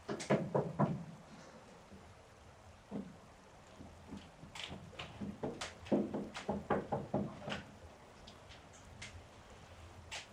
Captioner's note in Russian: стук